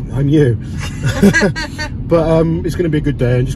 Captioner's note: laughs